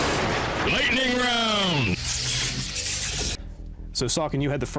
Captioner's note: dramatic voice